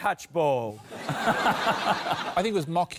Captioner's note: laughter